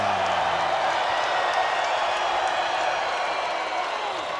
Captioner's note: crowd cheering